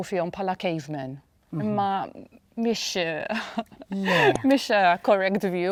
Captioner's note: giggles